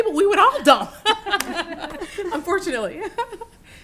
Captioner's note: laughter